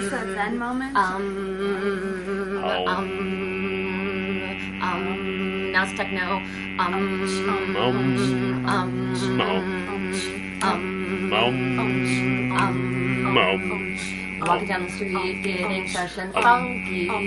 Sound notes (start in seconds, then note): 10.2 humming; 13.3 singing